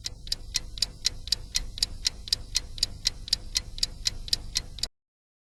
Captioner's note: tick-Tock